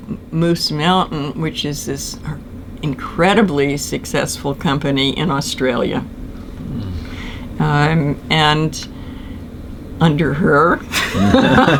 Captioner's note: laughs